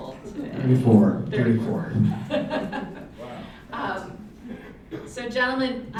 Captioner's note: laughs loudly